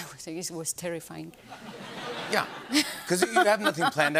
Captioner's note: laughter